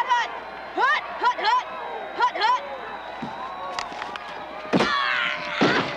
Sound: players groaning; players thudding; whistle shrilling

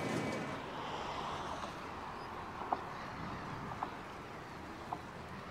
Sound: airplane engine hums; water swishing

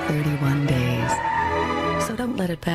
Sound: car tires screech

